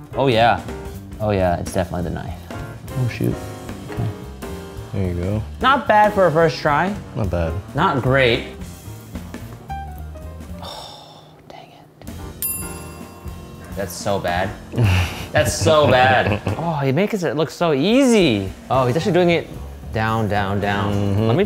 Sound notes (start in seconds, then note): 12.4 bell dinging